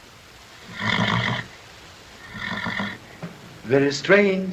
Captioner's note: horse neighs